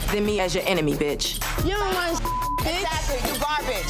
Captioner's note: beep